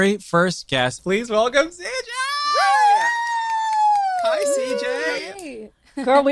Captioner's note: cheers